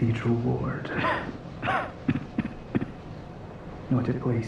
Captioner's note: coughing